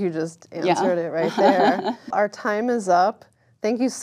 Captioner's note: laugh